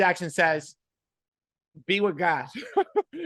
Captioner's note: laughing